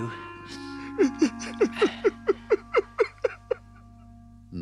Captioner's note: Mole sobs